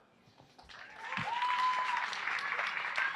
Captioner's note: applause